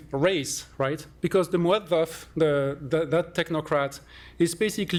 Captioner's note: non-english